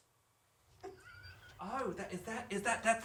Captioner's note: chuckling